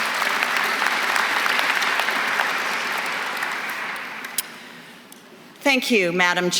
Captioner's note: applause